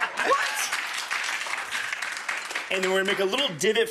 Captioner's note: audience applause